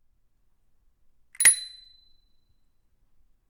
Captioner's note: ding